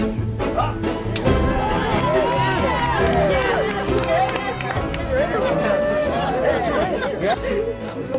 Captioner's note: cheering and applause